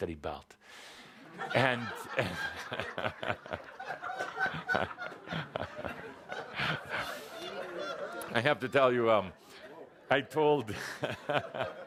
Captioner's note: audience laughter and Kuthumi chuckling